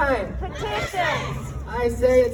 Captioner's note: crowd